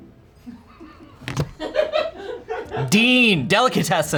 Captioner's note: crew laughs